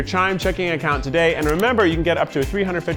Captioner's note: button clicking